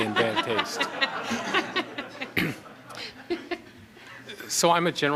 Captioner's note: audience laughter